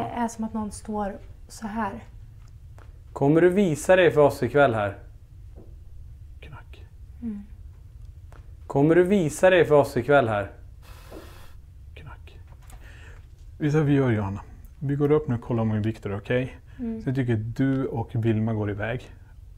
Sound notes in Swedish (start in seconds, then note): 5.8 Knackning